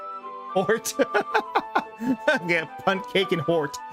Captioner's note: laughs